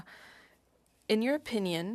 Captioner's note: speaking French